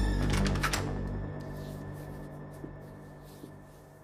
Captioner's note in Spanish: Ruido al abrir la puerta